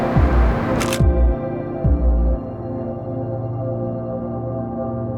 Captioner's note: camera shutters